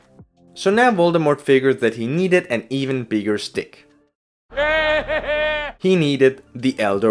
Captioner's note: Voldemort laughs